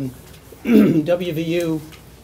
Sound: clears throat

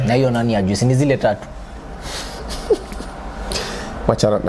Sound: giggles

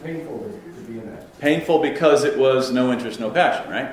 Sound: voiceover

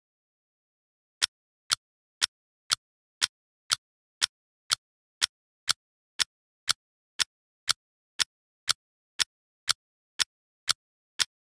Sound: sound of clock

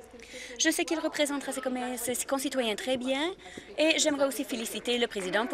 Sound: applause

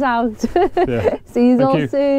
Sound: laughing

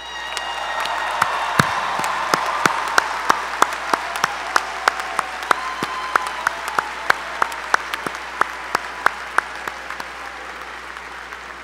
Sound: applause

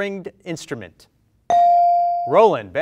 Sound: bell rings

